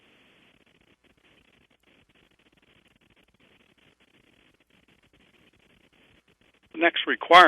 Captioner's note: pause